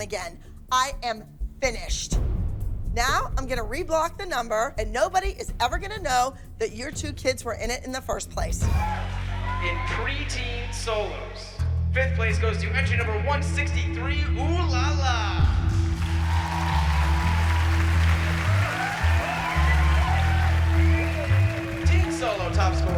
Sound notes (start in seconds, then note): 15.8 cheering